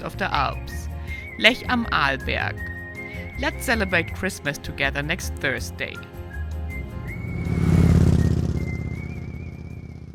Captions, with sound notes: of the Alps, Lech am Arlberg. Let's celebrate Christmas together next Thursday. (lively music) (motorbike roaring)